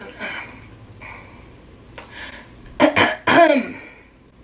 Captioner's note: clears throat